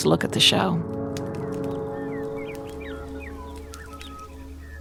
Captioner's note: birds singing